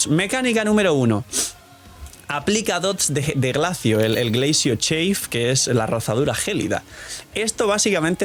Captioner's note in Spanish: resoplido